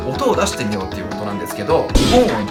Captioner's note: the sound of vibrating lips